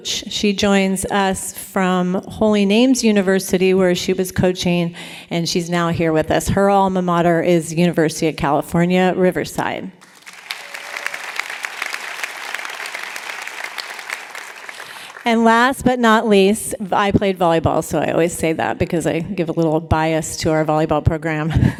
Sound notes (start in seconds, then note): 10.0 applause; 21.5 laughter